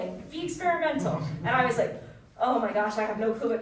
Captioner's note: audience chuckling